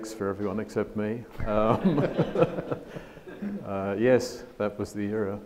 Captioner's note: audience laughs